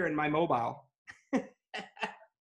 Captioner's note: laughs